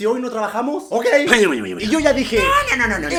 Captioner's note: grawls